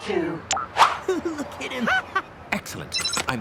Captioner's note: laughs